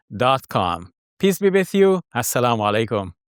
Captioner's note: speaks in foreign language